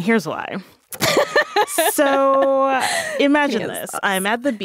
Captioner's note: laughing